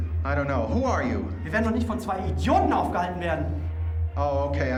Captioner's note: speaking german